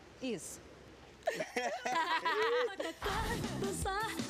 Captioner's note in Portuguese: ambos riem